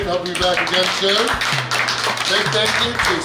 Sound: clapping

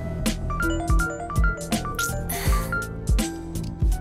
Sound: phone rings

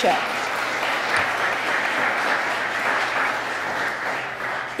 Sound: applause

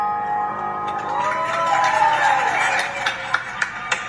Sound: applause

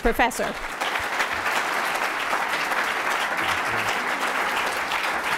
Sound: applause

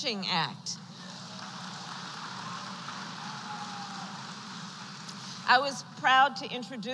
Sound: applause

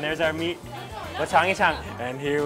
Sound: speaks in Chinese

